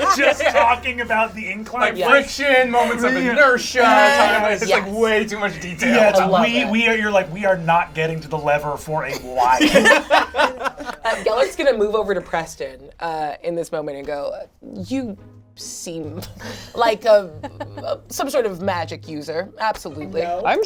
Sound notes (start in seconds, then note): 9.1 all laugh